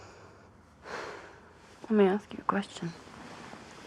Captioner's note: sighs